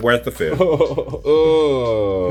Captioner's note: laughing